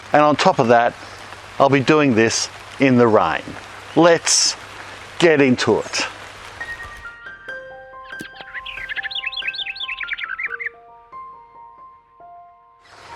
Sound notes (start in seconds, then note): 8.0 gentle music; 8.1 birds tweeting